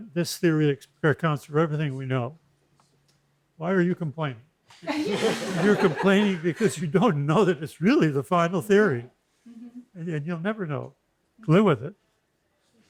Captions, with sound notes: this theory accounts for everything we know. Why are you complaining? [LAUGHTER] You're complaining because you don't know that it's really the final theory, and you'll never know. Live with it.